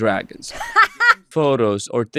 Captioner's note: laughs